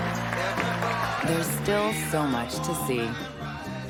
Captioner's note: applause